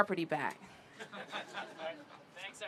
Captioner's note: laughter